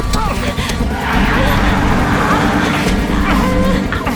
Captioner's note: grunting